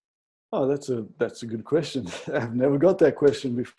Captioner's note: laughs